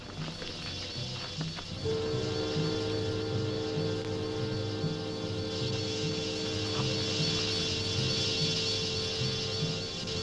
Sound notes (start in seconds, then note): 1.8 tense orchestral music; 2.0 wasps buzzing